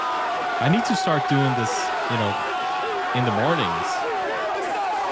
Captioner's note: cheering